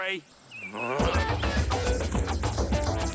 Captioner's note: groans; energetic funky music